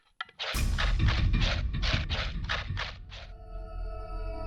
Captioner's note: loud gnawing; unsettling music